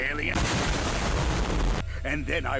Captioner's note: boom